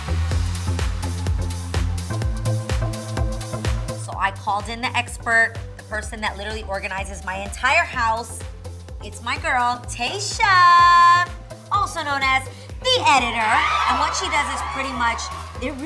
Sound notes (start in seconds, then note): 0.2 upbeat music; 13.2 people cheering